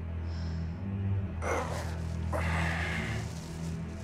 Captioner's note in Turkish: İnleme Sesi